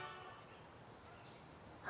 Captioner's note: crickets